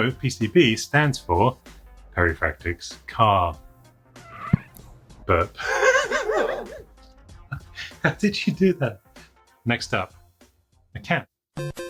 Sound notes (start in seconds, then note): 4.3 dog burps; 5.6 laughter